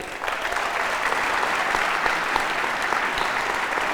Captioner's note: audience applauding